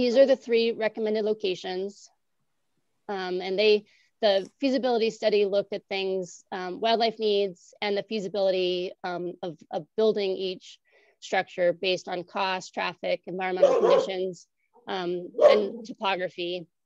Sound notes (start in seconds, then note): 13.6 barking; 16.2 barking